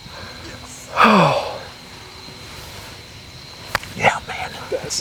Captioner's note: whispering